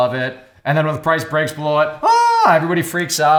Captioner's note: yells